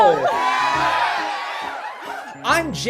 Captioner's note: audience cheering